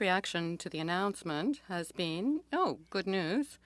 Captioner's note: speaking French